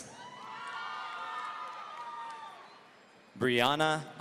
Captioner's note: audience cheering